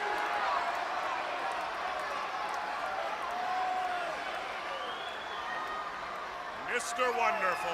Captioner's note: crowd chatter